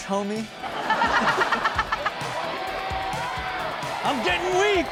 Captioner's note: Chanel and audience laughing; audience cheering